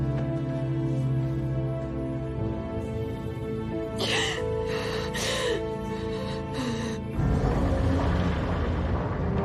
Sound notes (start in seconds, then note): 4.0 sobbing